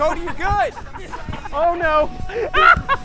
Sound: laughter

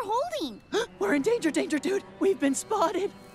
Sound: gasp

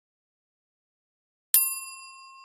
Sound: a noise emitted by a bell

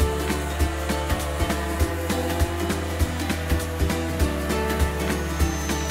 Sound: sander whirring; upbeat music

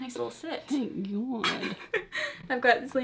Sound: laughs

